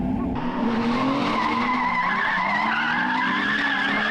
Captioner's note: engine revving